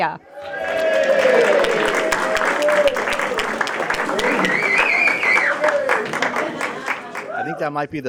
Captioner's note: applause and Cheering